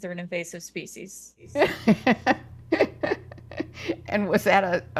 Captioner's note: laughs